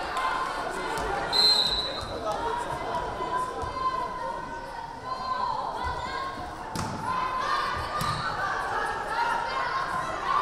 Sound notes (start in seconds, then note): 1.3 whistle blaring